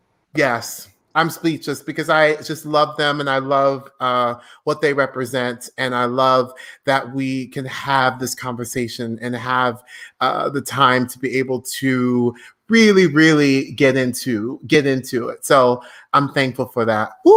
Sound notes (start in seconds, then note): none